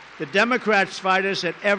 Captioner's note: applause